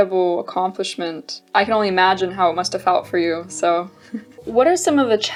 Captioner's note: laughs